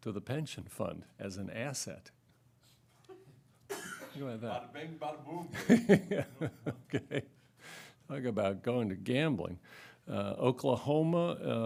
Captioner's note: laughter